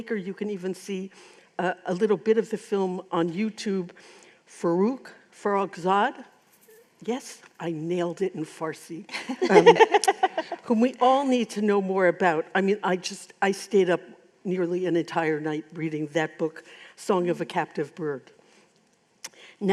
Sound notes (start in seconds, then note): 9.1 laughter